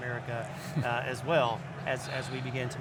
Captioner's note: chuckling